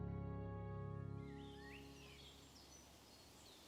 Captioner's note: birds chirping